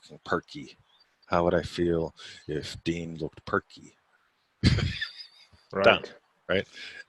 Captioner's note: laughing